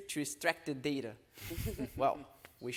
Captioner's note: panelists laughing